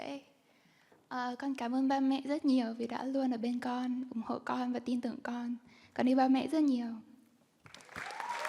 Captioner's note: speaking Vietnamese